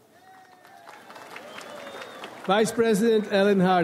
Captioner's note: audience applauds